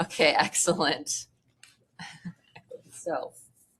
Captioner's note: laughter